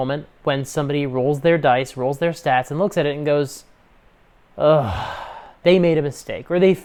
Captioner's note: beleaguered sigh